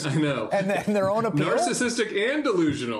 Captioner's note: laughter